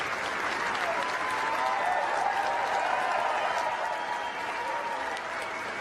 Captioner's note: crowd cheering and applauding